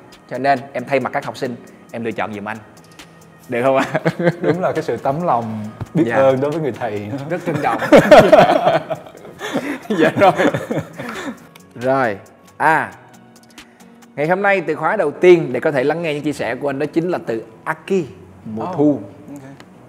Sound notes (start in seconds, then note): 7.5 laugh